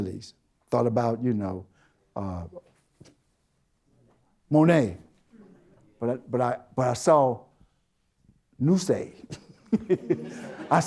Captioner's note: chuckles